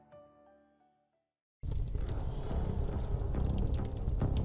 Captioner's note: fire rustling